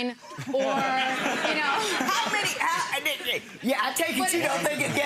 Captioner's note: audience laughs